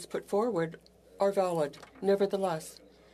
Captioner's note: speaking French